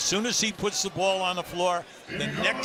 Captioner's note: cheers and applause